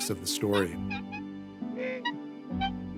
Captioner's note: jaw squeaking